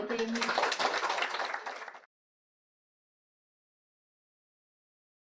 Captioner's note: audience clapping